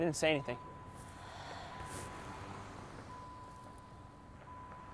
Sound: woman's breath

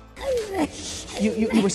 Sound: Lovelace whimpering

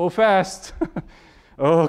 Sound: laughing

